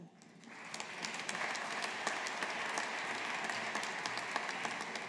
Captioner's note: audience applauding